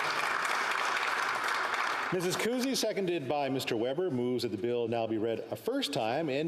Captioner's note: some Applause